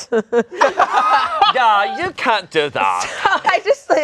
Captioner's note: everyone laughing